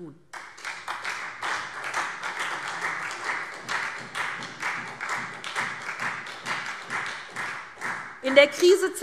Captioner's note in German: Beifall SPD